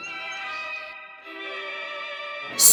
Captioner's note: birds chirping